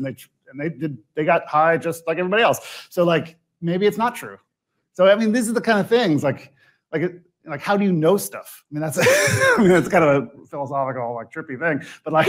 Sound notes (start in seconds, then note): 9.0 laughs